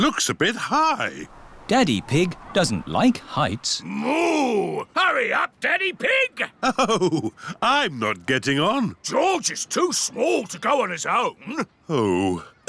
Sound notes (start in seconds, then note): 6.6 chuckling